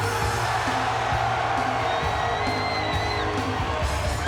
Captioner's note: crowd cheering